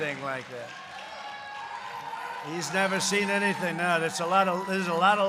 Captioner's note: applause